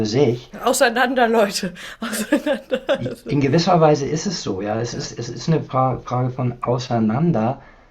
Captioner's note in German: gelächter